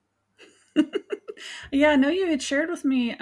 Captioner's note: laughs